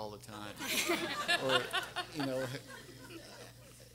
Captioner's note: everyone laughing